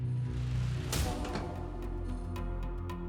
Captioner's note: door slamming; dramatic music